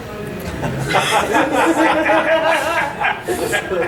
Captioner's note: audience laughing